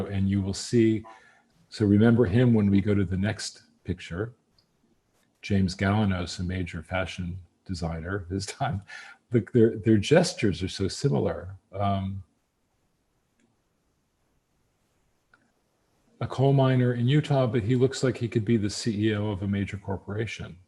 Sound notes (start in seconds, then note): 8.7 laughs